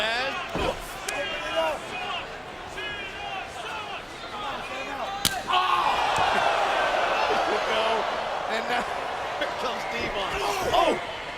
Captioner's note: applause